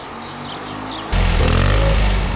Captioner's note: car in a distance; sound of the exhaust